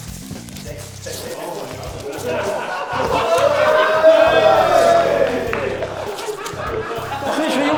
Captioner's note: laughter and cheers